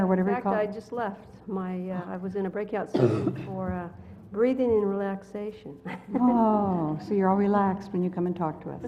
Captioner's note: laugh